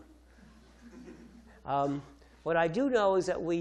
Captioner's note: audience chuckles